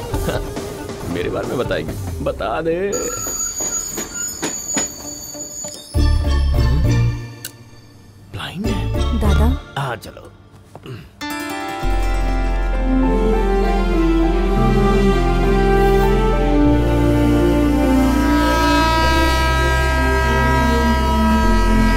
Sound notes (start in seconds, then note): 16.6 train horn